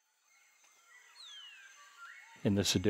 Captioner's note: birds chirping